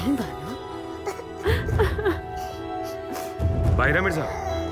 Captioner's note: Crying